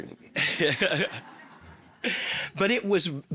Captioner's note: all laughing